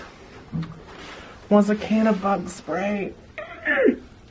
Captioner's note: gasps